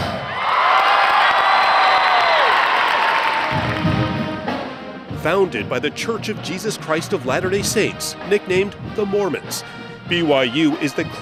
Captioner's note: cheers and Applause